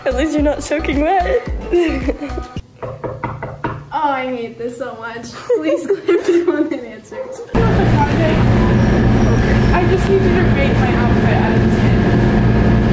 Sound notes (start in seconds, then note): 2.8 knocking